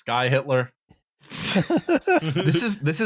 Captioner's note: laughter